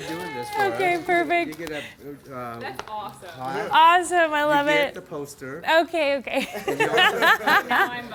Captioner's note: laughing